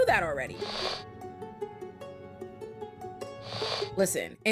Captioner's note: sniffing